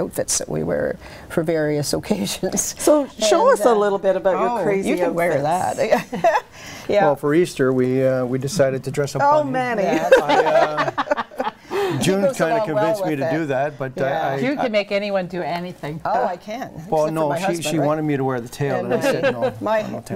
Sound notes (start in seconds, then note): 10.0 laughing